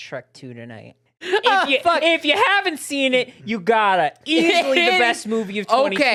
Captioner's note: laughing